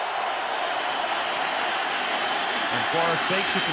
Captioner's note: crowd cheering